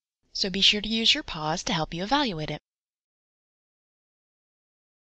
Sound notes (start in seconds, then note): 3.2 silence